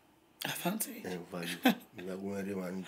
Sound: chukling

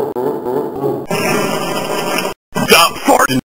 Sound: continues laughing; fart noise

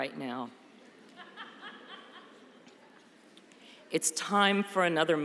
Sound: laughter

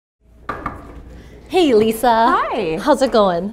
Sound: woman knocking on door

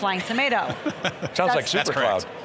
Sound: laughing

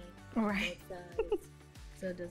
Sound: laughs

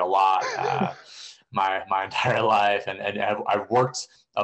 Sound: laughter

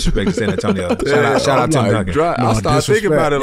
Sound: laughs

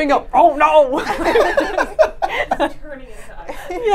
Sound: laughs

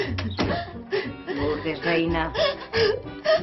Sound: more sobs

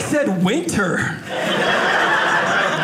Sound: audience laughing

